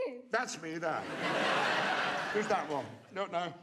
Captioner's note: audience laughs